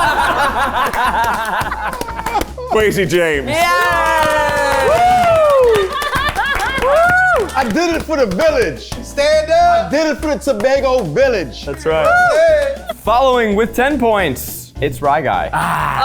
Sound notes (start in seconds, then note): 0.0 everyone laughing; 4.3 everyone cheering